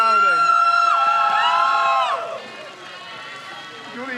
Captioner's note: crowd cheers